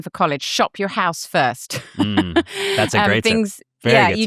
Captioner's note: laughs